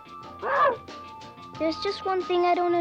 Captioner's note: Arrow barks